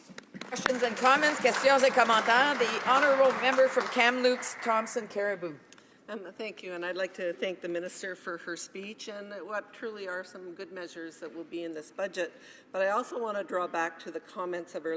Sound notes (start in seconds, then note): 3.5 some Applause